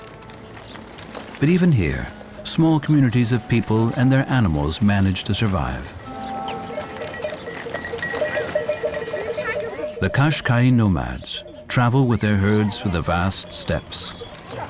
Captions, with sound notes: But even here, small communities of people and their animals manage to survive. [goat bells ringing] The Qashqai nomads travel with their herds through the vast steppes.